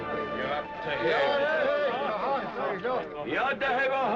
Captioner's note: speaking Comanche